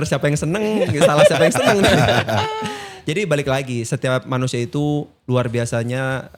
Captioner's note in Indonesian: tertawa